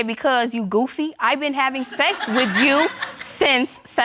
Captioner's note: laughter